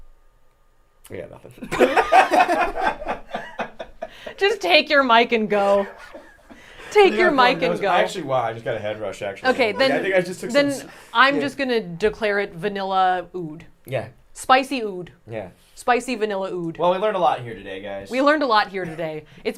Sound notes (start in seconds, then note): 1.6 group laughs